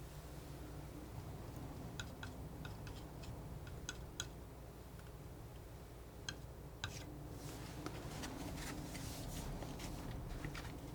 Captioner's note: scratching